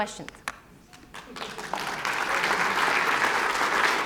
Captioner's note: applause